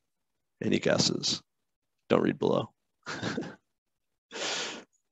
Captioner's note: chuckles